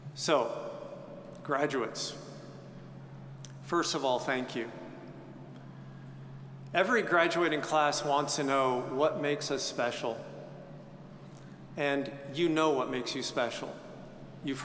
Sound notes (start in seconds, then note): none